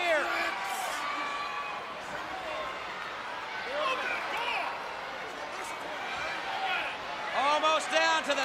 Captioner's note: crowd chatter